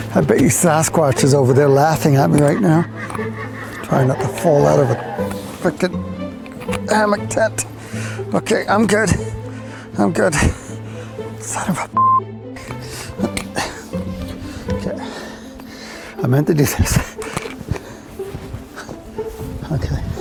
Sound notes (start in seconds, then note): 12.6 labored breathing; 14.7 grunting; 18.2 labored breathing